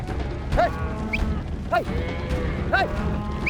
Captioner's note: whistles; whistles